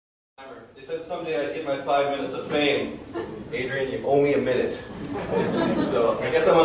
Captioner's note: crowd chuckling